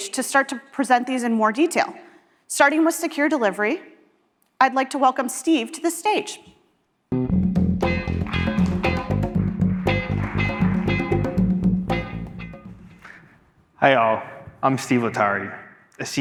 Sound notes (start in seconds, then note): 7.1 low rhythmic music; 9.7 audience applauding; 12.1 low rhythmic music fading